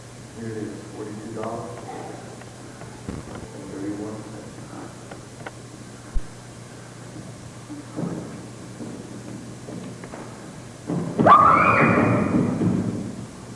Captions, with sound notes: Here it is, forty-two dollars and thirty-one cents. *shrieking*